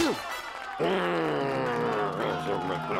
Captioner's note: grunts; growls